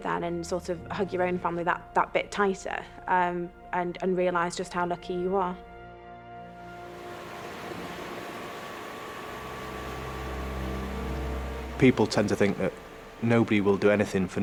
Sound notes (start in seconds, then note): 5.8 gentle music; 6.5 boat droning; 6.7 water whooshing; 10.1 intense music